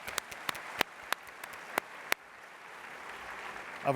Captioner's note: applause